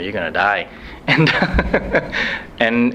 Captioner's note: laughs